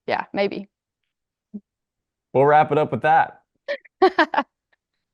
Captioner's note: laughs